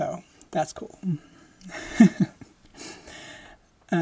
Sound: laughing

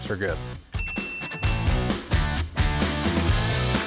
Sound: bell rings; upbeat music

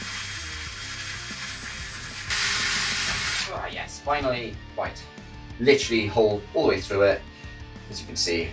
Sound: sound of drilling

